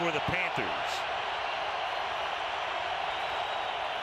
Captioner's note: crowd cheering